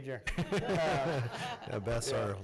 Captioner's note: laughs